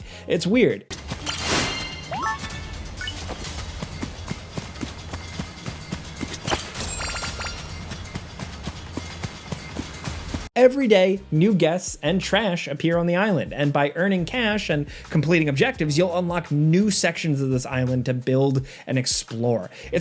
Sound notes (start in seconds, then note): 1.2 upbeat music; 2.4 footsteps thump; 6.5 notification beeps; 8.2 footsteps thump